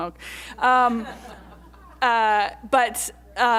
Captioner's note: audience laughter